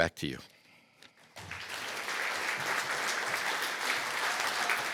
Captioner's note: applause